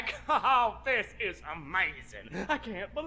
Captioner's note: laughing